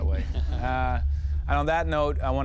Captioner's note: chuckling